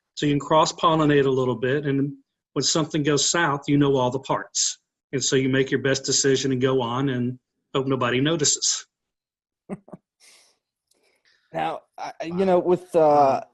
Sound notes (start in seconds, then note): 10.0 laughs